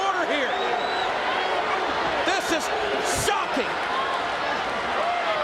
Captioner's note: applause